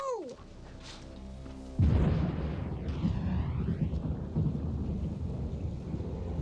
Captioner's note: deep ominous music; thunder crashing